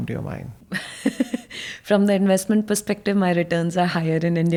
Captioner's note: chuckling